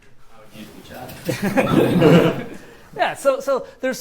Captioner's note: laughter